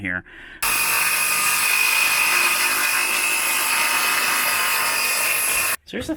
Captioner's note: sawing noises